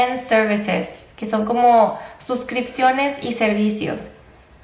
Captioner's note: spanish